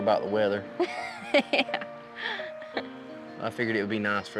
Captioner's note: laughing